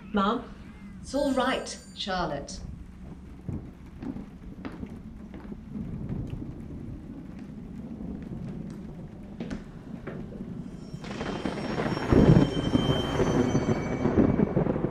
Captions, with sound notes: Mam? [Bell] It's all right Charlotte.